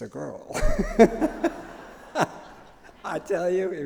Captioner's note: laughter